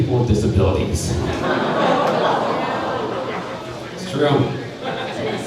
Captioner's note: crowd laughing